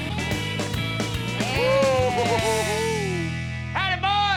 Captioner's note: giggling; laughter